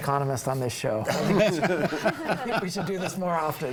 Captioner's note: group laughs